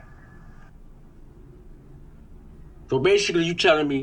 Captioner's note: background neighborhood noise